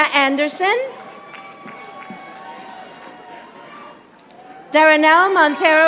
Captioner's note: audience applauding